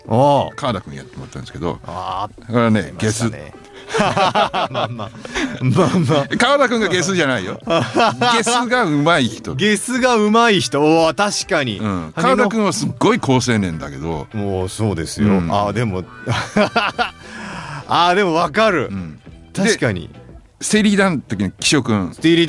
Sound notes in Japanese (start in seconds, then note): 3.5 笑い; 15.9 笑い